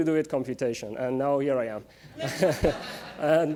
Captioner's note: laughter